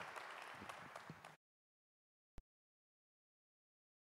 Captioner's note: cheers and applause